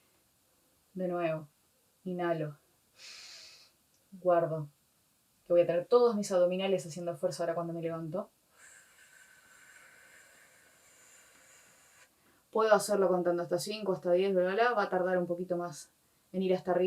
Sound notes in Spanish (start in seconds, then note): 8.6 soplido